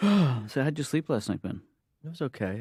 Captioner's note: yawn